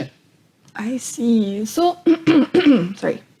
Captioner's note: clears throat